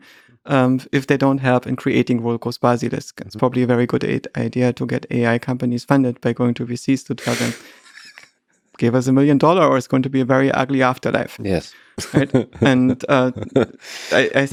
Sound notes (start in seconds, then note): 7.2 Lex laughing; 12.0 both laughing